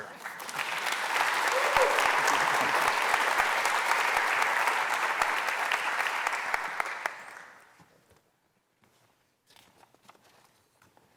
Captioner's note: applause